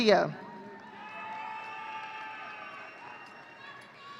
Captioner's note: audience cheering